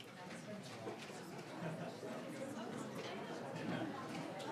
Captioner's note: ambient chatter